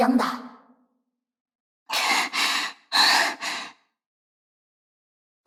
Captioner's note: panting